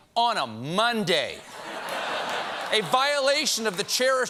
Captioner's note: laughter